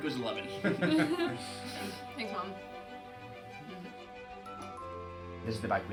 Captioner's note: laughs